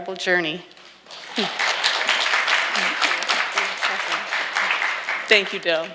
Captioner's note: audience applauding